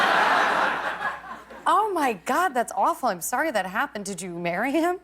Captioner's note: laughter